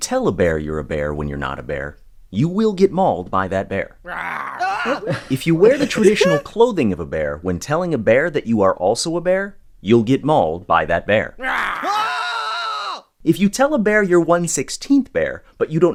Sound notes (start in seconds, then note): 4.0 screaming; 4.0 imitating bear growling; 11.4 screaming; 11.4 imitating bear growling